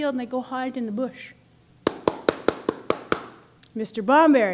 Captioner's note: knocking with fist